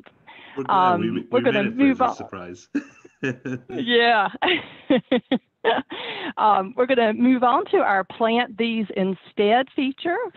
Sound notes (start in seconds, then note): 2.7 laughs; 5.6 laugh